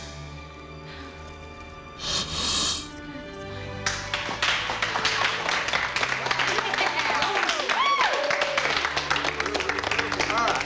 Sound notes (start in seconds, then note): 7.9 <i> applause</i>